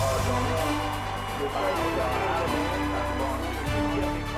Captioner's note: applause